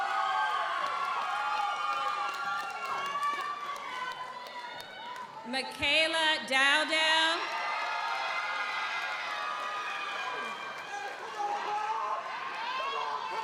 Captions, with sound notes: (audience applauds) (audience cheers) Michaela Dowden. (audience applauds) (audience cheers)